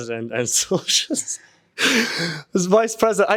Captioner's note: laughing